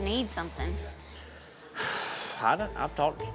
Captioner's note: sighs